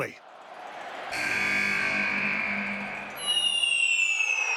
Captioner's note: buzzer blares